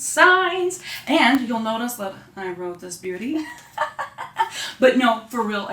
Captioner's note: laughing